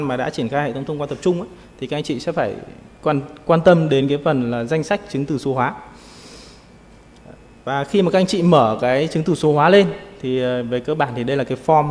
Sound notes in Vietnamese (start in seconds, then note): 6.0 khịt mũi